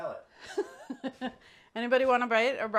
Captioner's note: laughs